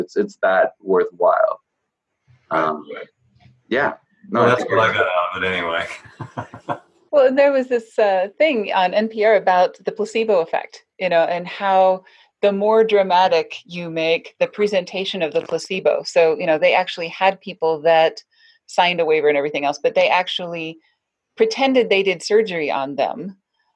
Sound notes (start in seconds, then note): 4.3 laughing